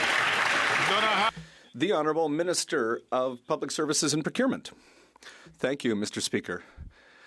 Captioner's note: some Applause